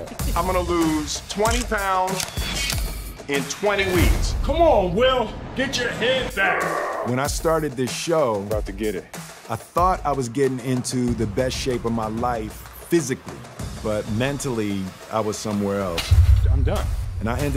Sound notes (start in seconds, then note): 6.4 groaning